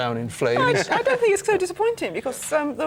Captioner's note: laughs